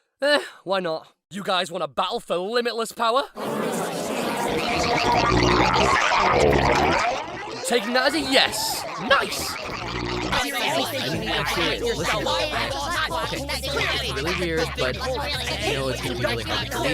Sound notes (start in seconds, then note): 3.5 strange alien noises; 12.1 jabbering